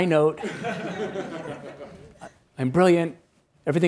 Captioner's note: attendees laughs